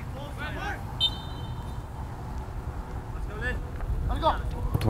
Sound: whistle blows

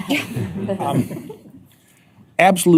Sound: laughter

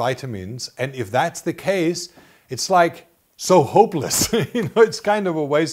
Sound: laughs

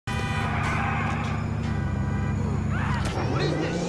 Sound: ambient city noises

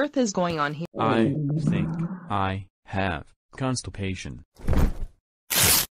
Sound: stomach growling

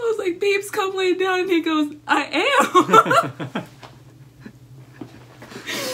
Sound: laughter

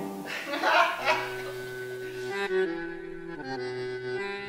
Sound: dancers laughing

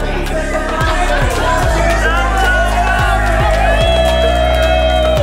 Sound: crowd cheering

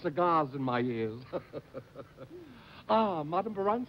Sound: chuckles

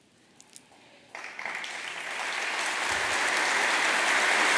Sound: applause

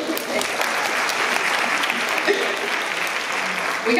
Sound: applause

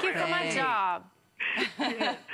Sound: laughter

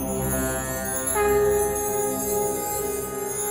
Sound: conch blows

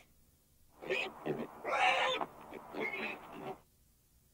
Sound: pig sounds

